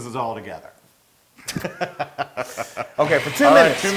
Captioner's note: laugh